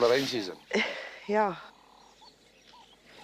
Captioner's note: sighs